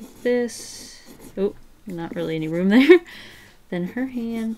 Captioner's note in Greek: Γέλια